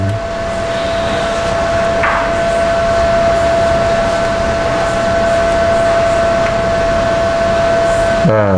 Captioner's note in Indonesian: suara mesin